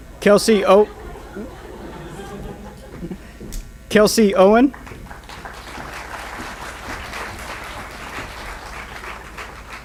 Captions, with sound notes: Kelsey, oh. (audience laughs) Kelsey Owen. (applause)